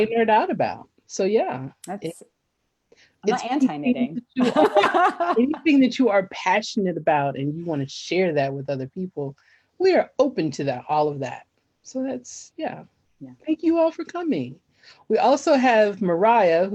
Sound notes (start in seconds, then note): 4.3 laughs